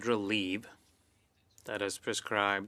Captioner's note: speaking French